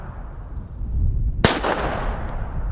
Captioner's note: pistol fires